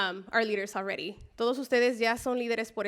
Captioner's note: spanish speech